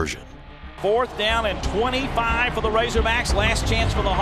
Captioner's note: voiceover